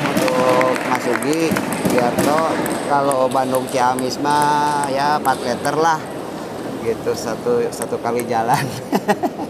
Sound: applause

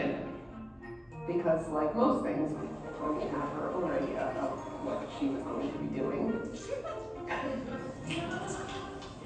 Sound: laughs

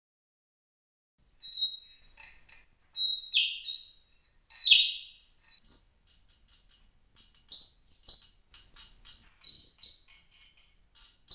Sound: sound of tropic bird

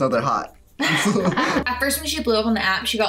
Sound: chuckle

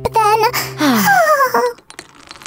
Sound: sighs

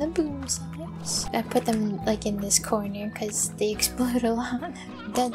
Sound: giggling

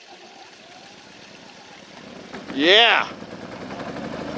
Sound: generator rumbles

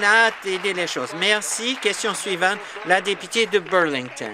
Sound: voice trailing; applause

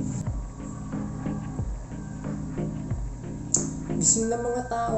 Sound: rooster crows

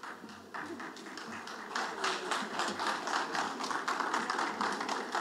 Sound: audience applauding

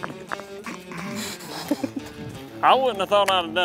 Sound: laughs

